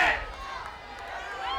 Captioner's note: applause